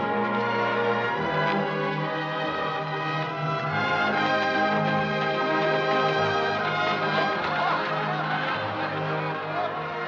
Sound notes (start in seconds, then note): 6.8 laughter